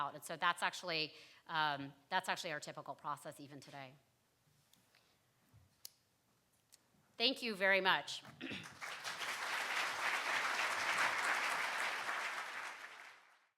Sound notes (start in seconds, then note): 8.6 applause